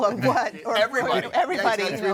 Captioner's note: all chuckling